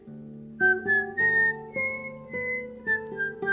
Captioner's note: whistling to the tune